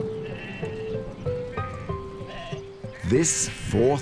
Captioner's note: sheep bleat